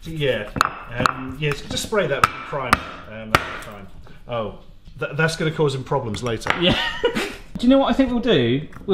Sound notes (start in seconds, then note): 0.4 block bangs